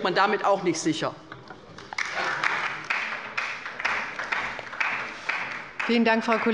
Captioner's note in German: Beifall bei der LINKEN